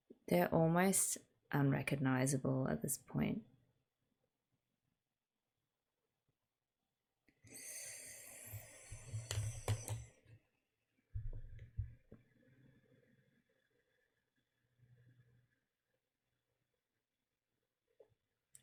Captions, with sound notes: They're almost unrecognizable at this point. [sharp intake of breath]